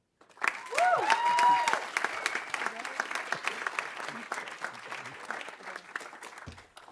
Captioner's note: audience applauding; audience cheering